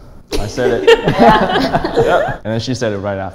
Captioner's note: laughing